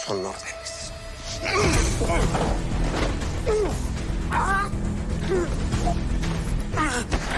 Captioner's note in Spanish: Exclamaciones y quejidos